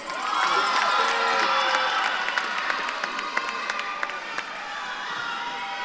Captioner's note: audience claps and cheers